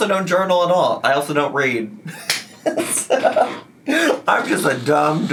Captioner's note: laughs